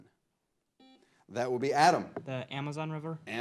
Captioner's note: buzzer blares